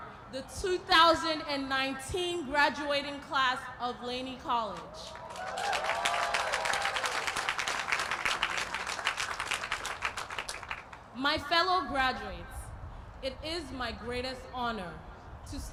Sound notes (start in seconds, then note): 5.0 applause